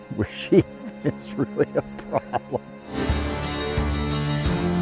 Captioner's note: laughing